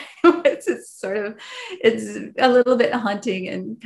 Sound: laughs

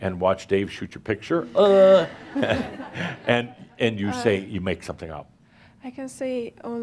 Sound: some laughter

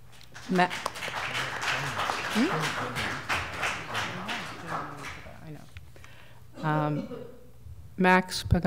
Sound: applause

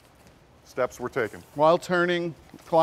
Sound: voiceover

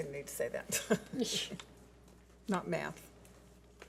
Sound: laughs

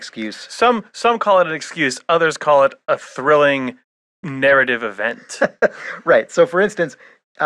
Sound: laughs

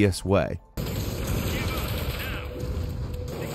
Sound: guns blasting

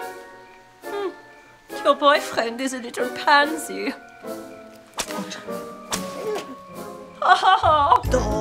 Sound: whip swacks

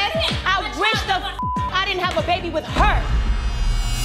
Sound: beep; dramatic music

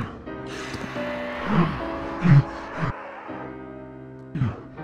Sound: dramatic piano music; muffled gagging

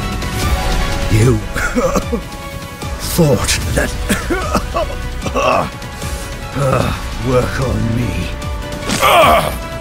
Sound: cough

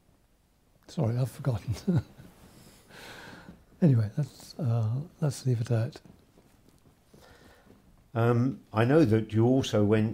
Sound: chuckles

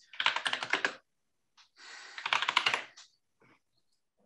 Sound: keyboard clattering

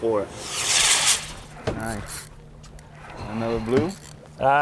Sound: loud whooshing

